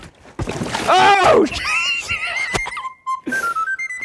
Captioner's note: water splashing; upbeat music